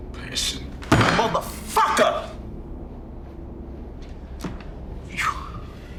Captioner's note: hand thudding